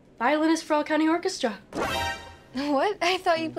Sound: sharp tone

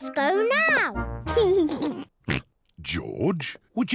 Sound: laughs; laughs, snorts

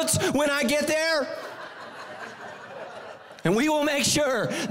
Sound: congregation laughing

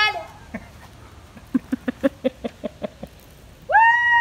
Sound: laughter

